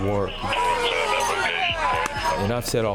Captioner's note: siren wailing